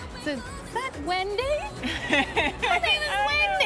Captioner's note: laughs